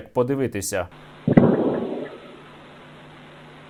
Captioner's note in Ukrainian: вибух